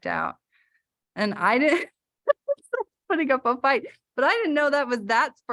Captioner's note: laughter